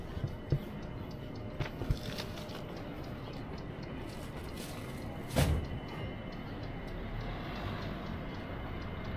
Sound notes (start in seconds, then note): 3.4 people chattering